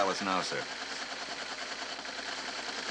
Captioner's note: telex machine printing